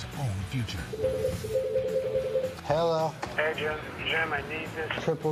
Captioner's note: telephone rings